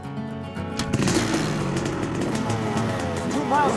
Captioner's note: bike starts